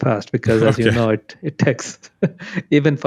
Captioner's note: laughs